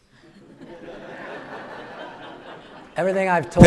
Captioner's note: audience laughing